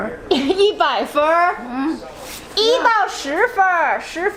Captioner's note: speaking Chinese